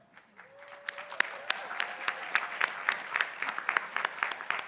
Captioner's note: crowd applauding